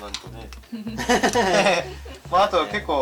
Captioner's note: laughs